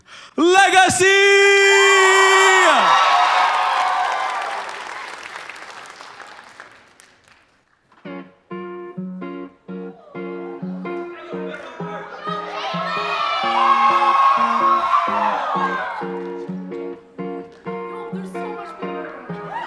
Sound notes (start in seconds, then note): 2.7 applause; 13.7 applause